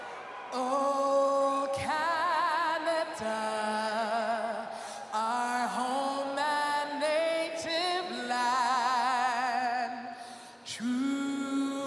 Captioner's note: cheering and Applause